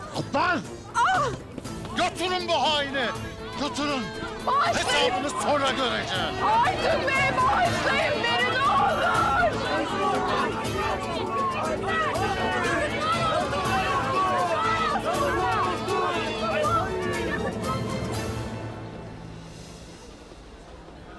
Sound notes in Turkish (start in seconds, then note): 10.0 Yuhalama sesleri; 11.5 Hep bir ağızdan